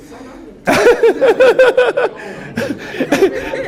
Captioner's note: laughter